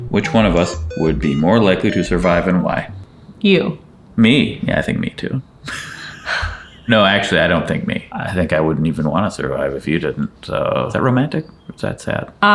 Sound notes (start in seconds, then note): 5.6 chuckling